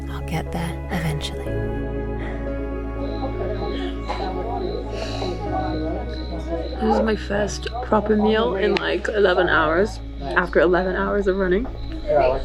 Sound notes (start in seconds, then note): 3.6 insects singing; 3.6 people chattering